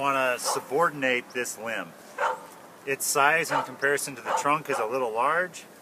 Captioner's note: barking dog in background